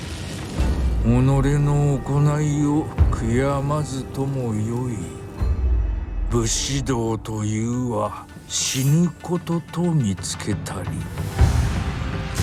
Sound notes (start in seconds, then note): 1.5 speaking foreign language